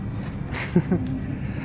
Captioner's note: laugh